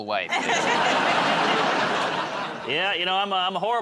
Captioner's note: laughter